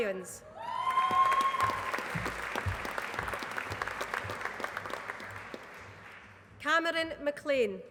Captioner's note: applause